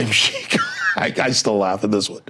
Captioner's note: laughing